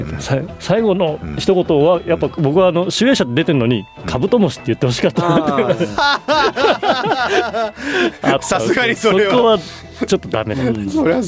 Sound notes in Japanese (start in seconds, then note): 5.1 笑い